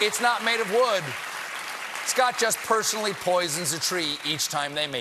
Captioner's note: applause